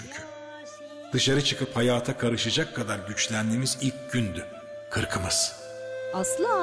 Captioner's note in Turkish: Ahmet dış ses